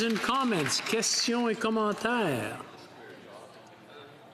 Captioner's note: applause